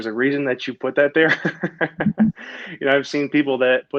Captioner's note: laughing